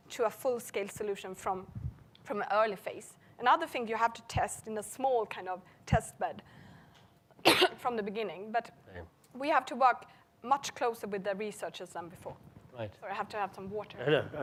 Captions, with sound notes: to a full scale solution from the early phase. Another things you have to test in a small kind of test bed (coughing) from the beginning, but we have to work, much closer with the researchers than before. Sorry, I have to have some water.